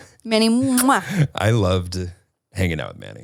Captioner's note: smooches